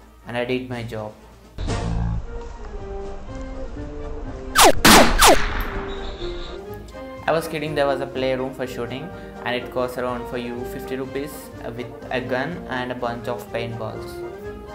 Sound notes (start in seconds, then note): 4.5 bullets firing